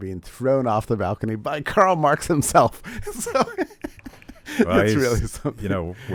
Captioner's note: laughing